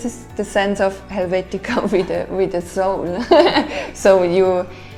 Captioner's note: laughs